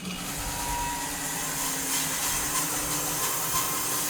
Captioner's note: slab master whirring